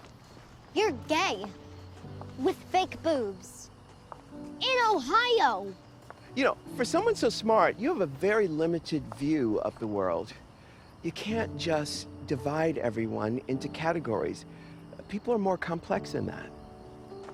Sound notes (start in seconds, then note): none